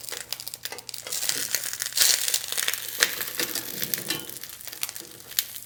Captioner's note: sound of the olive oil sizzling